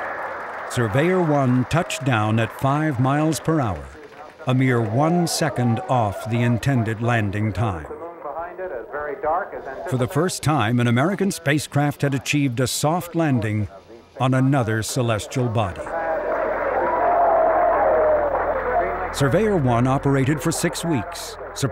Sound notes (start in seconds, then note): 15.3 people clapping; 16.6 people cheering